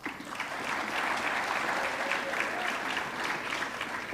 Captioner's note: audience clapping